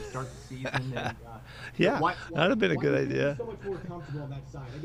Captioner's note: laughs